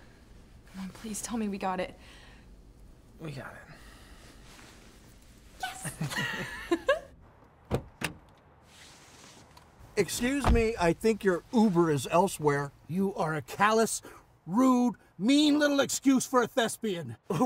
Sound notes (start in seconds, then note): 5.7 both chuckle